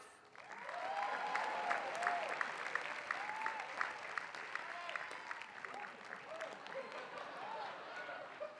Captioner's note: applause